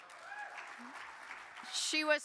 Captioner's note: audience applauding